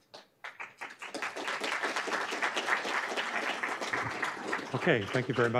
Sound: applause

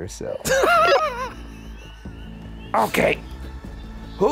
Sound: laughing

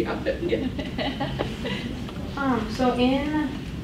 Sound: laughs

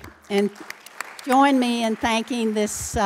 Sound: applause

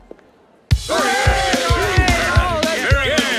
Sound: cheering

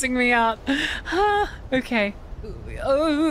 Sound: stressed Exhale

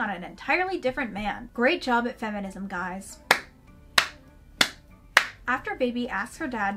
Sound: slow clapping

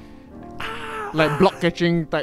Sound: ahhhh

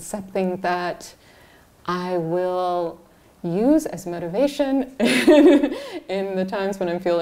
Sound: laughs

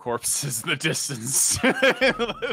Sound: laughs

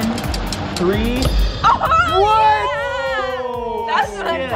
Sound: cheering

